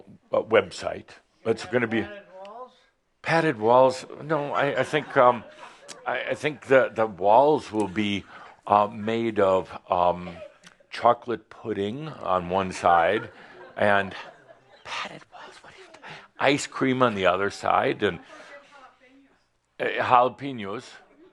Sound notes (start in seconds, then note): 5.1 a few chuckles